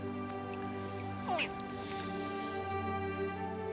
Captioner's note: crocodile chirps